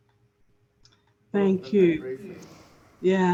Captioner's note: speaking faintly